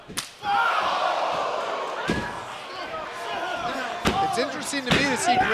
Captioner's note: crowd exclaiming